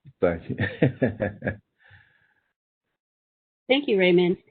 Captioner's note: laughing